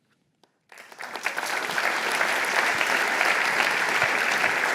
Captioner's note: applause